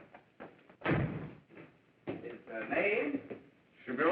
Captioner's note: door slams